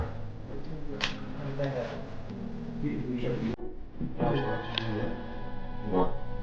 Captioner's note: eerie music; crowd chattering